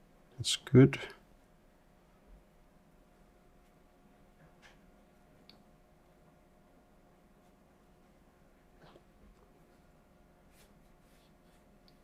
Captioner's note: silence